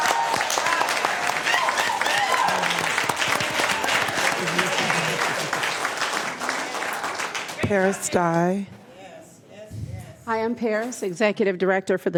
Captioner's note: applause